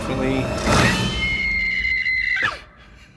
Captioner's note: high-pitched scream